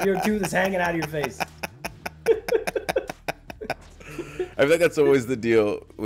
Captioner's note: laugh